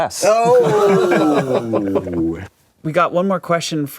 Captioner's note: laughing